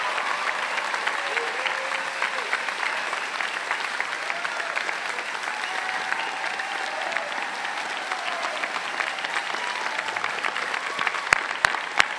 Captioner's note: cheers and Applause